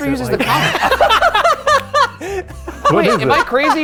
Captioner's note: laughing